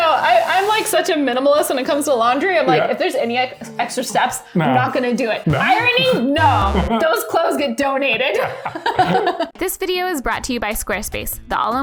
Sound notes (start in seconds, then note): 8.3 laughing